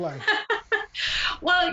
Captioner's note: laughs